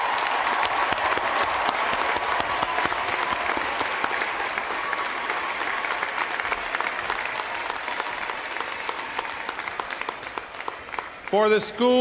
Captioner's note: applause